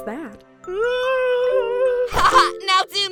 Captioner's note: goo whimpers more